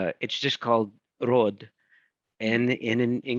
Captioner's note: speaking in foreign language